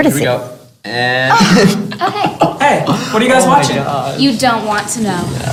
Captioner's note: laughter